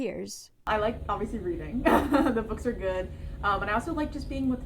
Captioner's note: laughter